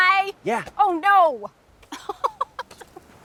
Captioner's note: laughs